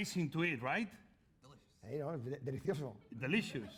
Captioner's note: speaking spanish